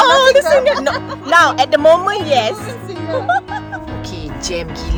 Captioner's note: laugh